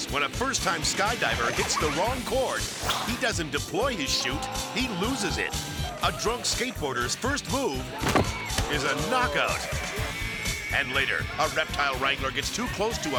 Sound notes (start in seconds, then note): 8.0 thudding